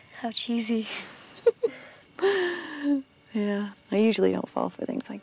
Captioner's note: Giggles